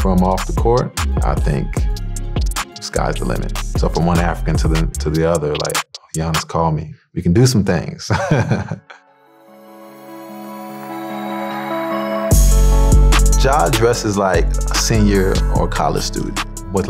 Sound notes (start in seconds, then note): 8.1 laughing